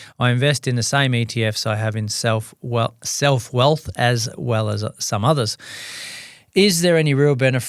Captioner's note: sighs and gasps